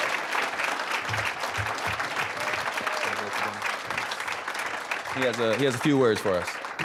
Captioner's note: applause, cheering; applause